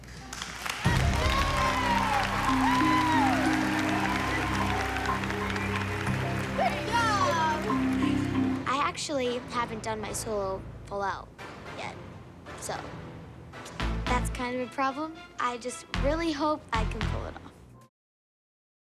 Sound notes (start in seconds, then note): 0.1 clapping; 3.1 cheering